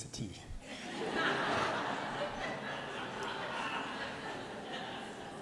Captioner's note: laughter